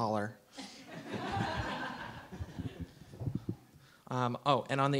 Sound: audience laughs

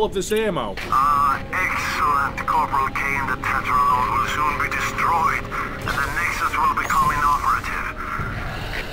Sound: STRAUSS over the radio

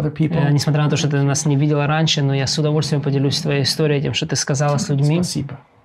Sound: speaking in foreign language

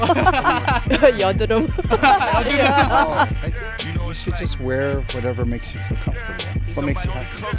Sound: laughing

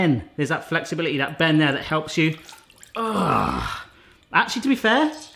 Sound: grunts

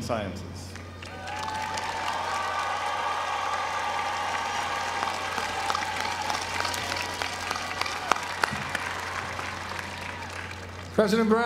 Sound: applause

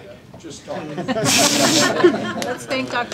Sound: laughter

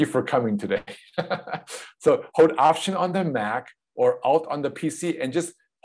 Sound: laughs

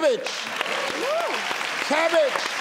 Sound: clapping

